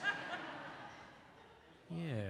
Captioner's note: audience laughs